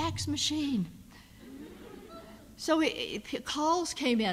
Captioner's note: audience laughs